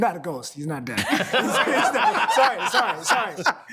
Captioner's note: all laughing